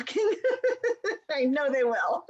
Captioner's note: laughter